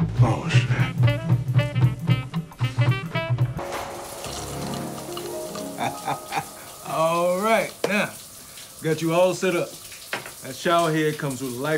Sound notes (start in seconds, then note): 3.7 water spattering; 5.4 chuckling